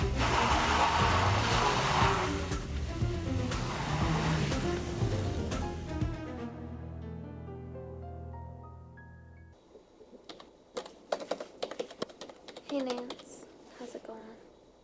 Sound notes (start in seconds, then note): 0.0 tires screeching; 3.7 tense music continues; 7.5 gentle music; 10.2 keys clacking